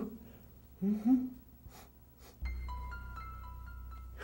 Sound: sniffs

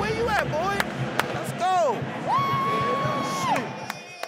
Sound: claps

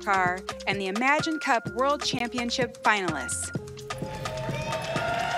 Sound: cheers

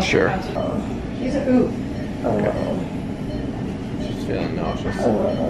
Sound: chatter and beeping

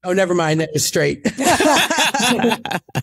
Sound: laughing

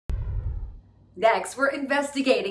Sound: text whooshes

